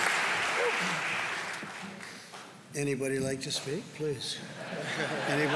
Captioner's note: applause; laughter